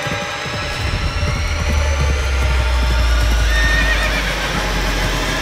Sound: horses approaching

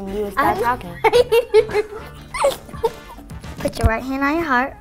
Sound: laughs

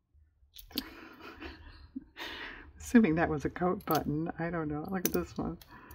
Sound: laughs

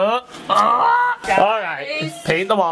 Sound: grunts

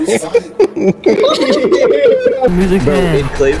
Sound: spectator chat bursts out laughing

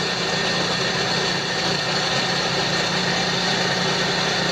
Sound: bellows engine running

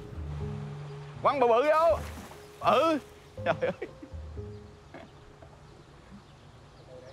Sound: fisherman speaking in foreign language

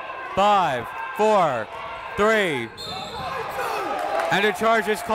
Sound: whistle

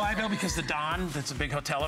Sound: laughter

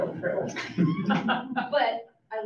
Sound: audience laughs

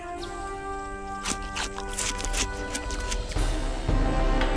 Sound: chews

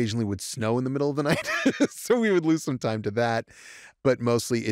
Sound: laughs

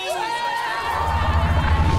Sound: cheering

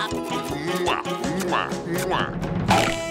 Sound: kissing

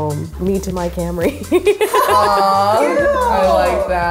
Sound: laughter

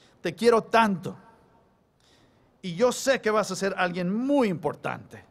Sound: speaking spanish

